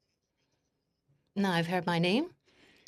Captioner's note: speaking French